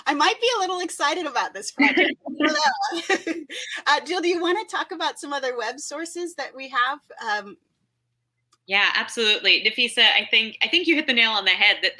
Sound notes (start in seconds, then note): 1.8 laughs